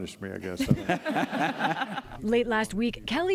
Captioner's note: laughter